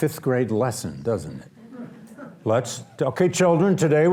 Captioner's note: audience laughs